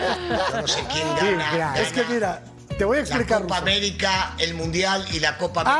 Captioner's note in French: risas